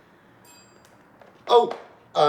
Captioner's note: computer pings